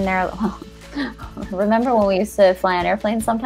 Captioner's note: chuckles